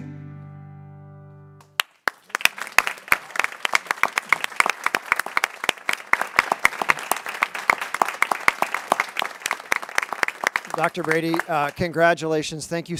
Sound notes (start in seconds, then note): 2.0 people clapping